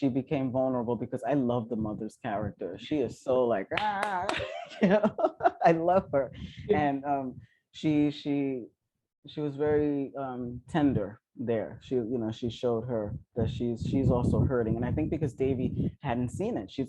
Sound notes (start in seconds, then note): 3.7 claps